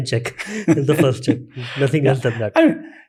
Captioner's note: chuckles